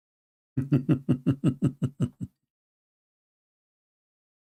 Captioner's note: Ketawa